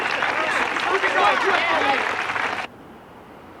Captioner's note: chattering